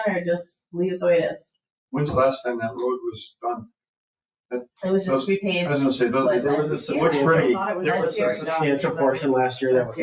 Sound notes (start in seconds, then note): 8.2 people chatter